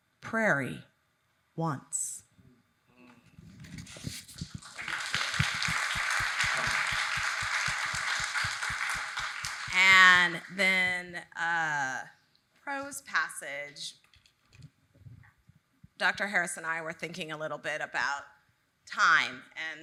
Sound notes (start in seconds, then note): 4.0 audience clapping